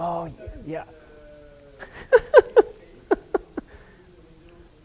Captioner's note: laughs